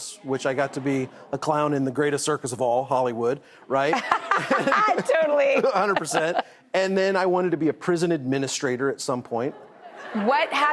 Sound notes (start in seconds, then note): 4.0 laughs; 9.5 audience laughs